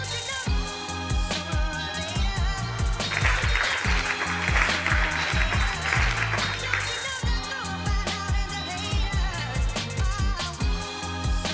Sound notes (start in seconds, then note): 3.0 audience applauds